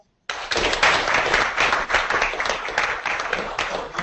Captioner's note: audience clapping